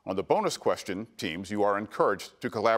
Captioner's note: none